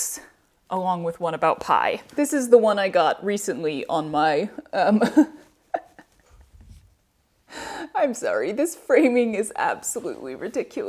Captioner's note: laughter